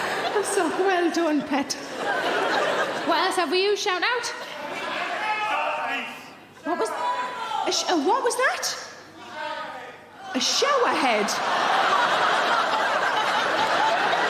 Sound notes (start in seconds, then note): 4.7 audience members shouting; 10.6 audience laughing